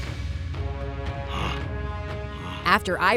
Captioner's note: grunting